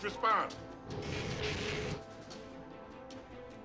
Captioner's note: static crackles